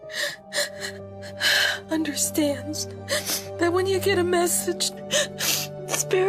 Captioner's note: cries